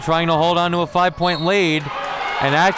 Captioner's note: whistle blows